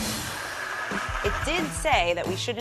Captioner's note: blender whirring